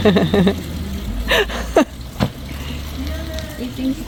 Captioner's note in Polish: śmiech